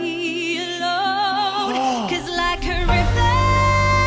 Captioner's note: sad sigh